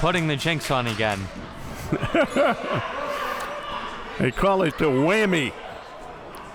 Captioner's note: laughs